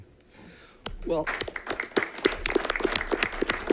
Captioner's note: applause